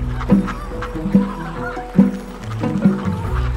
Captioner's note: ducks quacking